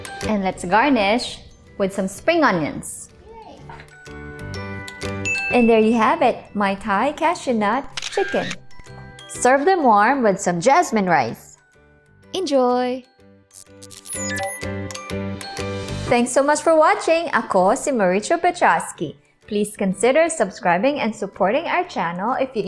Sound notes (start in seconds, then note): 5.2 ding; 7.9 camera clicks; 14.0 blip